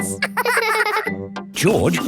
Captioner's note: both laughing